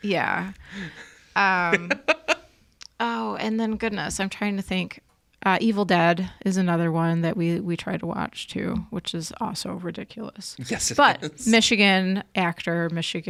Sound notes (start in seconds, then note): 1.4 laughs